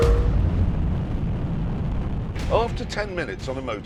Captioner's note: rumbling